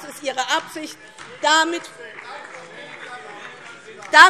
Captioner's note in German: Beifall DIE LINKE - Zurufe AfD